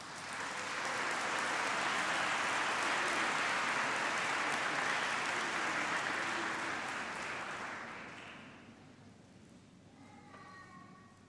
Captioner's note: applause